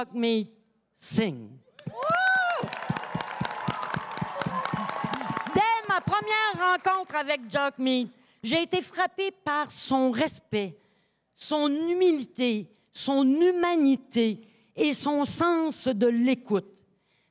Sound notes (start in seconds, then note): 1.8 cris et applaudissements